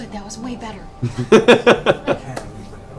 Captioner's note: laughs